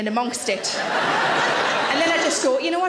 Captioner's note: audience laughs